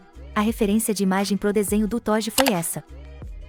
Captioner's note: mouse click sound